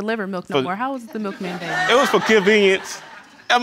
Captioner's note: audience laughing